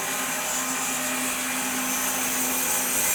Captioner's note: saw whirs